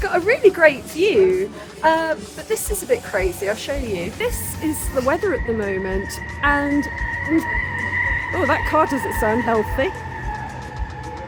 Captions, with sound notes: got a really great view. But this is a bit crazy, I'll show you. This is the weather at the moment and- [loud screeching] Oh, that car doesn't sound healthy.